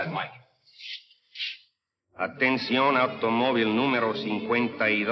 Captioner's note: speaking in Spanish